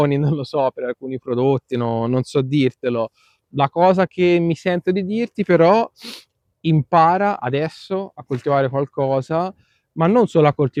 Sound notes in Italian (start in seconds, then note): 6.0 sbuffare